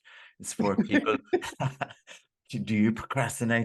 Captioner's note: laughing